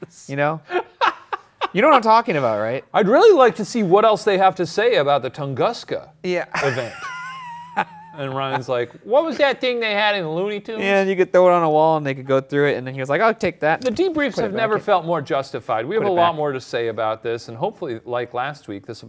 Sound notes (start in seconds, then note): 0.6 laughs; 6.5 laughs